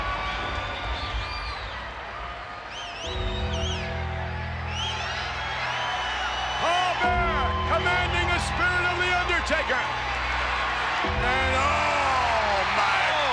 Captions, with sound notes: (bell tolls) Paul Bearer, commanding the spirit of the Undertaker. And oh my goodness!